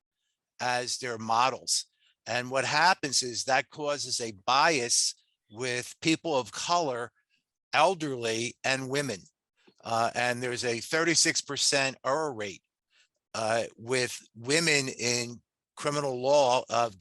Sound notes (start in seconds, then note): none